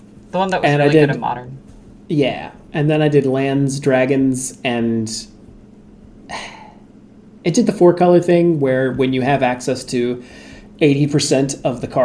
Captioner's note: sigh